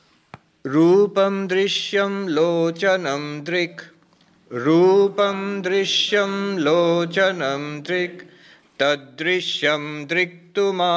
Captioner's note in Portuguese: Recitando versos do livro em sânscrito